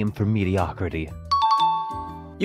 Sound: correct bell sound

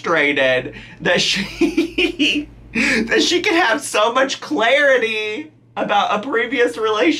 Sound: laughing

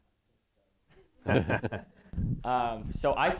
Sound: laughter

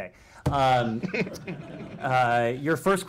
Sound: laughter

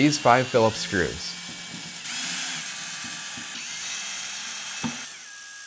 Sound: screwdriver whirrs

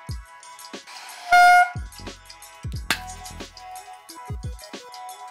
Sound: horn squelching

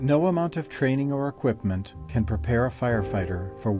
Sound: voiceover

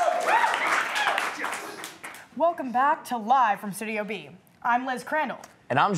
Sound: applause

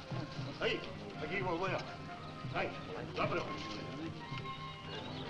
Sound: man speaking in foreign language

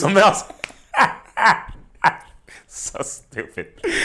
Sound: laughing

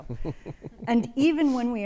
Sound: attendee chuckles

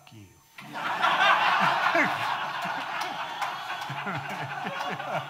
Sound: audience laughing

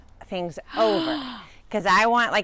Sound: gasps

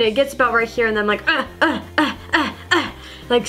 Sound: grunting

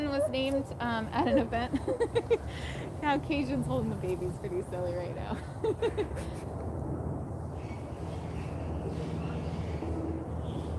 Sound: laughter

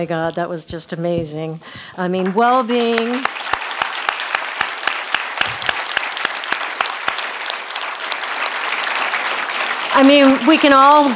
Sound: applause

